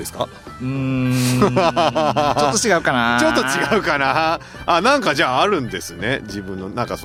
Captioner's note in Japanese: 笑い